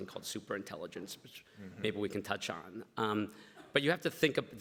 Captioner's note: everybody laughs